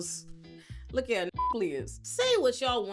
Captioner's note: beep